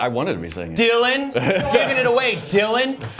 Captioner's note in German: gespielt anklagender ton